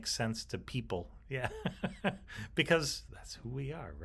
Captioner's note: chuckles